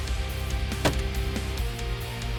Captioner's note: gun shot